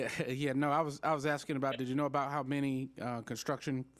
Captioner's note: laughter